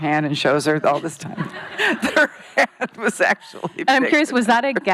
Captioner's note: laughing